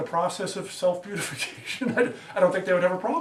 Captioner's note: laughs